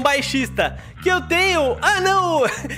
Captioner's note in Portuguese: risos